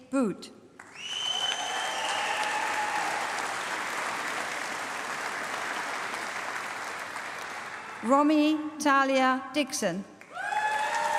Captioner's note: applause; applause